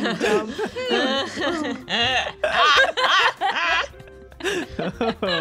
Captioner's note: collective laughing